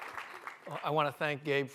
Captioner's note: applause